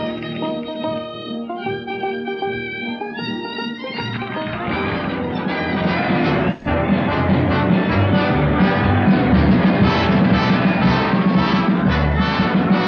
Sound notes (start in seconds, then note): 0.1 upbeat acoustic music; 4.2 applauding; 7.1 cheering; 7.1 parade music